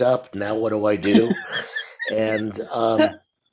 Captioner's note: laughs